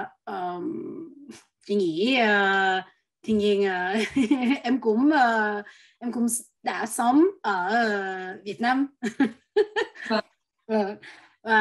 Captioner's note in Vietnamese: cười